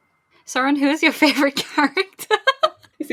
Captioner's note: laughing